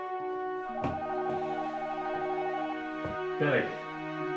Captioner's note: phone ringing